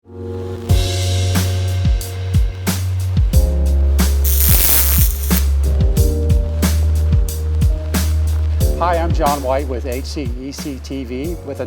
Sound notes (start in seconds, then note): 0.0 soft music; 4.2 graphic squeaking; 6.6 soft music